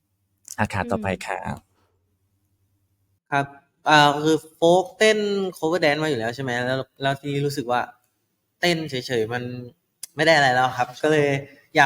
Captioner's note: in Thai